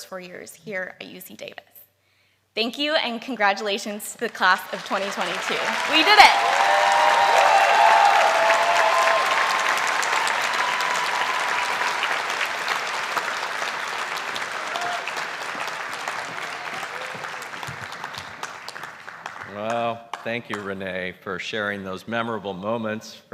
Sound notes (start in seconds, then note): 6.5 applause; 6.5 cheering